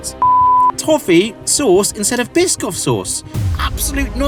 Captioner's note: beep